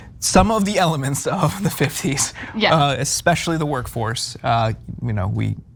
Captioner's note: laugh